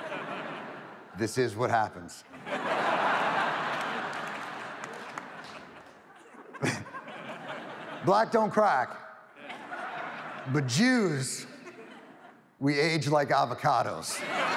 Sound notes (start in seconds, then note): 2.3 audience laughs; 4.7 laughs